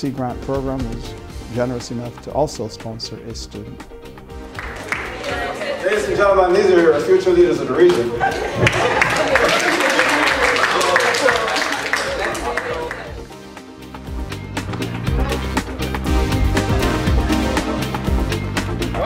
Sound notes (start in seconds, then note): 12.0 clapping